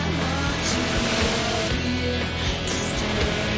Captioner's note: yells